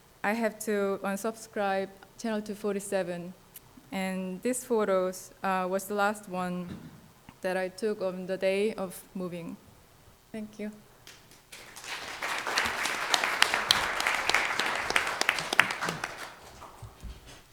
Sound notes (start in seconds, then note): 11.0 audience applauds